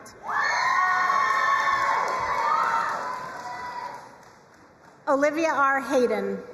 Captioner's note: crowd cheering and applauding